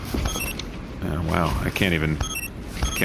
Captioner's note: communicator beeps